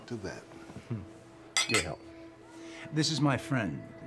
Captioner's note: glasses clinking